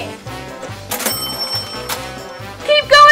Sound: bell rings

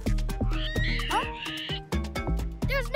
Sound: bushbaby cries

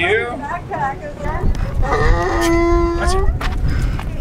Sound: donkey braying

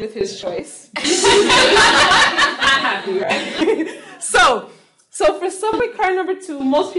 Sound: laughing

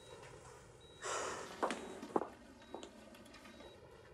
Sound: Lana sighs

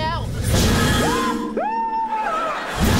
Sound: screaming

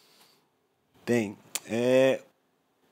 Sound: non-english speech

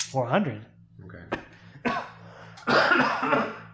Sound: coughs

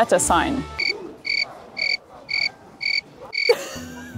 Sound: crickets chirping; laughing

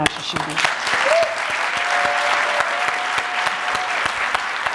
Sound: audience applauding

